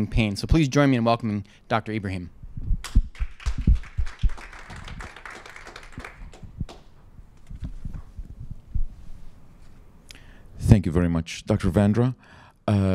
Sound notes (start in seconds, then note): 2.9 applause